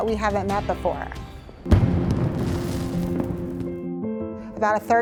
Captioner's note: fireworks explode